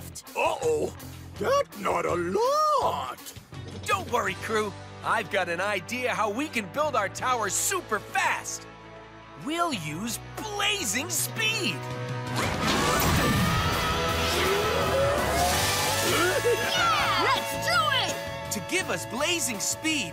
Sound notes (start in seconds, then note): 16.1 giggles